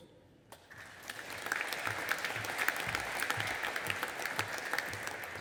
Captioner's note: audience applauding